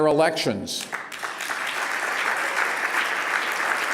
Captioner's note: applause